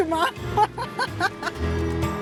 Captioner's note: laughs